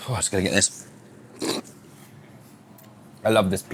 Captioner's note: slurps food